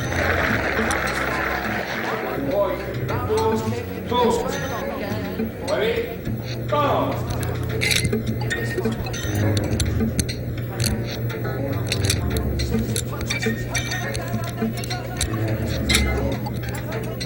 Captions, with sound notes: - One, two. Two. Ready? Go. (Arthur narrates in distance) (ominous ambient music)